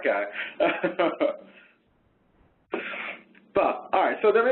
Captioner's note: laughs